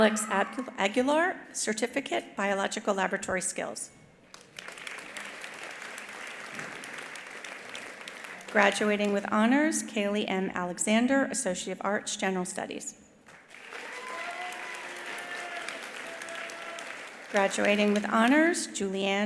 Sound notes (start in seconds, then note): 4.3 attendees applauding; 13.3 attendees applauding; 13.5 attendees cheering